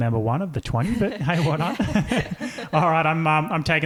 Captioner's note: chuckles